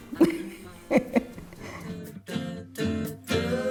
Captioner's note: laughs